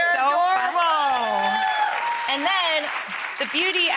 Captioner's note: audience applause